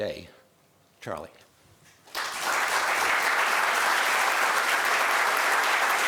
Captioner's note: applause